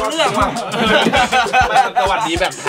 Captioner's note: laughs